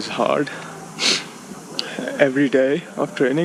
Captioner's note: sniffs